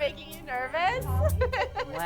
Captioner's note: laughs